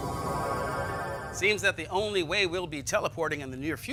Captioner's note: teleporting sound